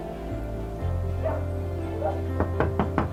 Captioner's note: dog barking; knocking on door